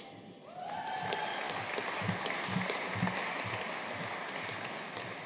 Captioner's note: audience cheering and applauding